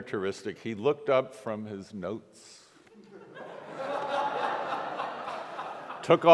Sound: congregation laughs

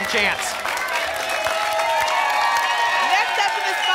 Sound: applause and cheering

